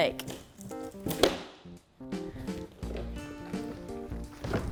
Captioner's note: box clattering